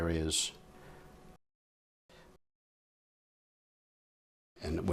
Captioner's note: silence